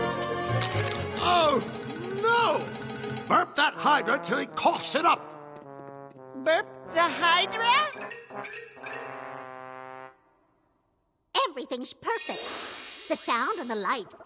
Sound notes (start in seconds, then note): none